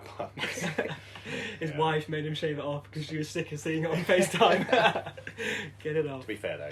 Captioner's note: laughter; laughter